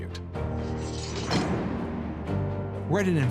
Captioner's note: metal gate clanks